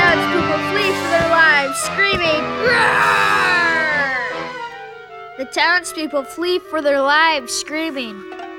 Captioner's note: roars